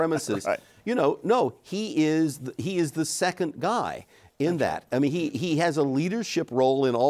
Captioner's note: chuckles